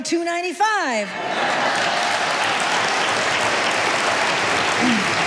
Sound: audience applauding

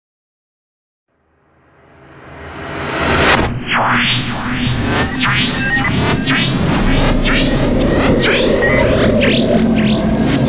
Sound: sound of science fiction

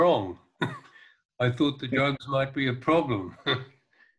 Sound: laughs

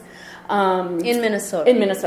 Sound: voiceover

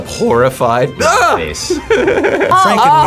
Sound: laughs

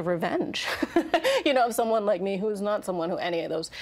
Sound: laughing

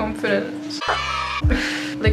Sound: children cheering; laughs

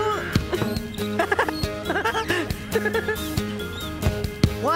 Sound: Spud Giggling

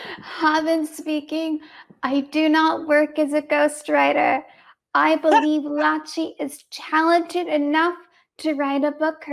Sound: laughs

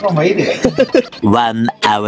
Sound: laughs

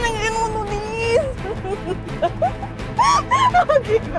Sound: laughs

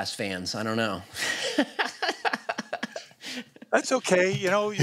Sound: laughs

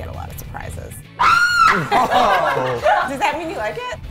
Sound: woman screams

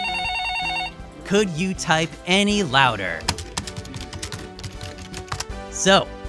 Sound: phone ringing; loud typing

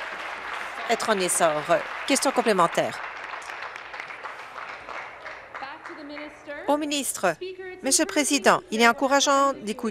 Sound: applause

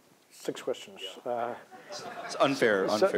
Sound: laughter

